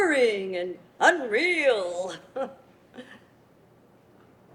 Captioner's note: chuckles